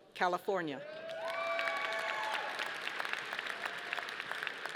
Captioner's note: audience applauding